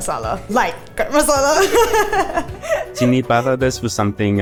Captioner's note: laughs